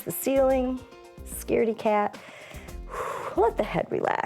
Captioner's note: inhales and exhales